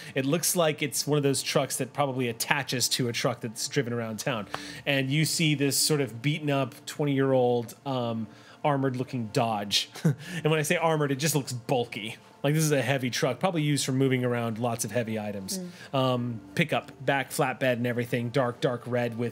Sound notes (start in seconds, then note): 9.9 chuckles